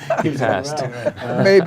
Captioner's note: men chattering; men laughing